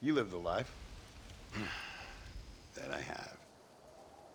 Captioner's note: sigh